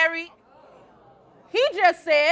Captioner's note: crowd oohing